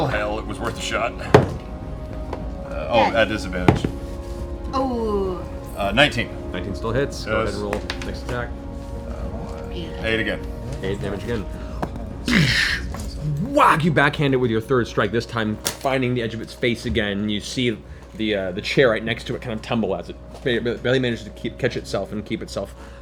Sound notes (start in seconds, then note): 12.2 whack